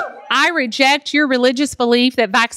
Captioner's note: cheers